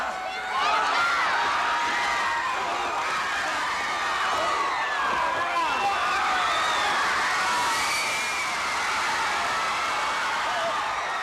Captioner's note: crowd cheering